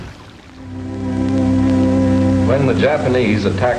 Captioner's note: water flowing; soft music begins